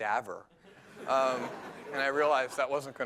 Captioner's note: laughter